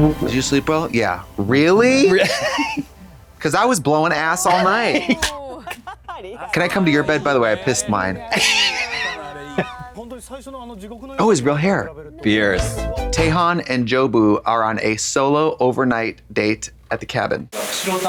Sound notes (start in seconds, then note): 4.4 Katya snickers; 8.2 Katya wheezes; 12.5 synth bop